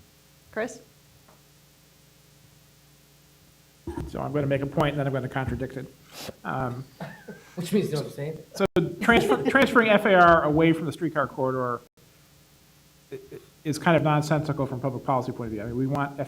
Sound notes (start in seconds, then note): 6.9 laughter